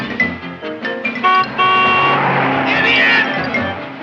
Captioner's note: horn honking